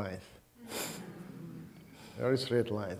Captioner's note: audience humming